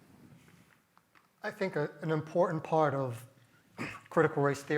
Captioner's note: cough